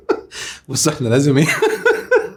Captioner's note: laughs!